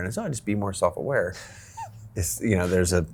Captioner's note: laughs